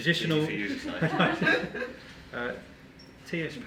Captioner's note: group laughing